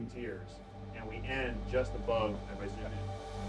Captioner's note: murmurs